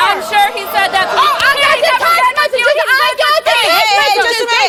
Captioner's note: yelling